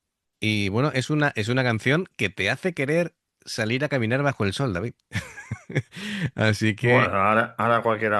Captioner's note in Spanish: risas